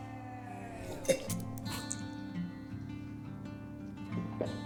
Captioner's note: spitting